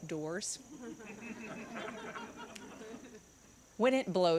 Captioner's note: congregants laughing